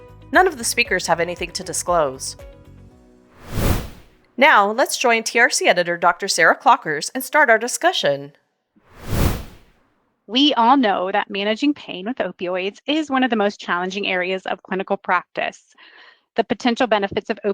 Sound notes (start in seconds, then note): 3.4 whoosh Sound; 4.4 music Bed Stops; 8.9 whoosh Sound